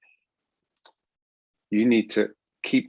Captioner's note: mouse clicks